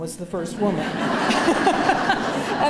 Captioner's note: laughter